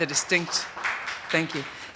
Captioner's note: audience applauding